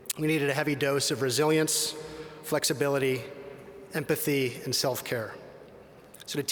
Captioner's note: none